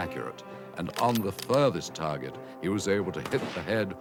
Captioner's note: gun firing